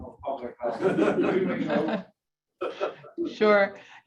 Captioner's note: audience laughing